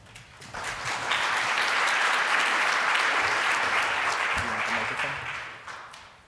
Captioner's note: applause